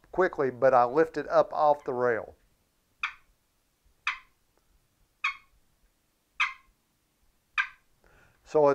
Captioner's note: making turkey clucking sound